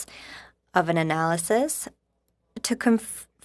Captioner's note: speaking in french